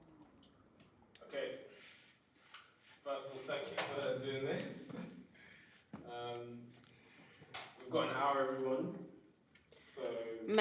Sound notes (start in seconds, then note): 4.9 laughs